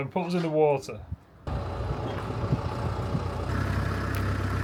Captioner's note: engine noise